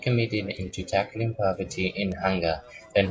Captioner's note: Vietnamese